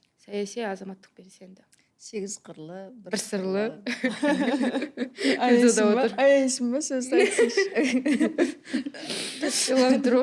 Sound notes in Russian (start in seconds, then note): 7.1 смех